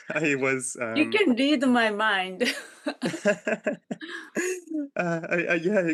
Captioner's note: laughing